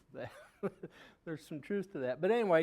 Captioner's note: laughing